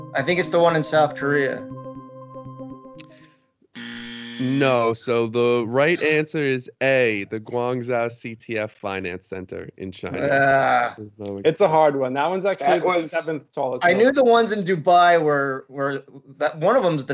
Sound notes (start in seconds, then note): 3.7 buzzer sounds; 10.2 groans